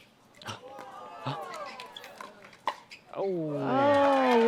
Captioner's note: gasps